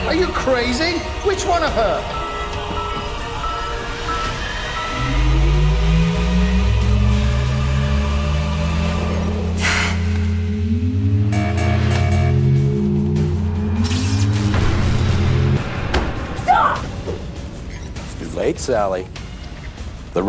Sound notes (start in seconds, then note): 2.9 alarm blaring; 6.2 machine whirring; 13.8 energy crackles